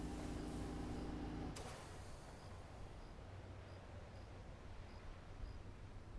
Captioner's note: ventilator stops humming